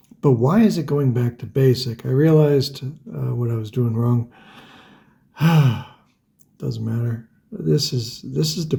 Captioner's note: sighs